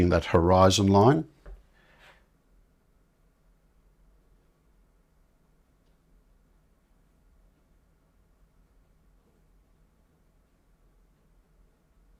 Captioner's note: silence